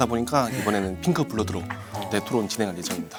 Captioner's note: suppressing laughter